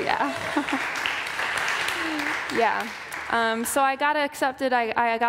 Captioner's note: applause